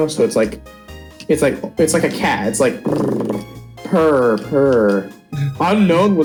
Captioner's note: purr